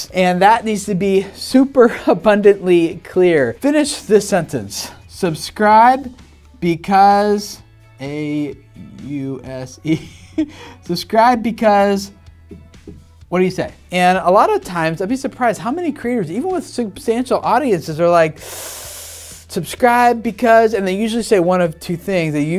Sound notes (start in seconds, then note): 18.3 inhaling